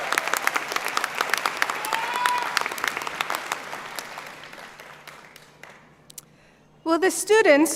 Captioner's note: applause